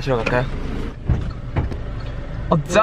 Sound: the door opens

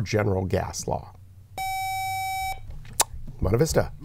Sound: buzzer

